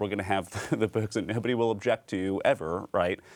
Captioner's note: laughing